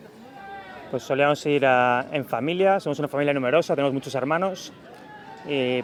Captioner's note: speaks in foreign language